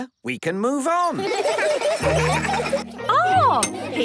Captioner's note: laughter